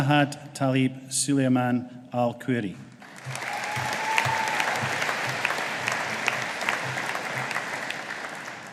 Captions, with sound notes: Jahad Talib Sulaiman Al Qurri. (AUDIENCE APPLAUDING)